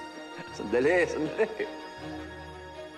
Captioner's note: chuckles